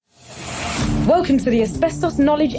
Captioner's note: air whooshing